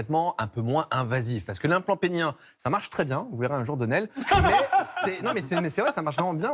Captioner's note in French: rires